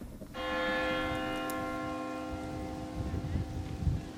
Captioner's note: bell ringing